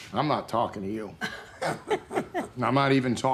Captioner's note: laughter